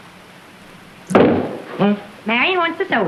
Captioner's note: loud bang